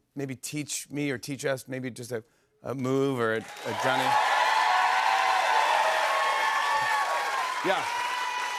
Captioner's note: cheers and applause